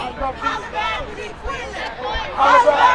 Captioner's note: crowd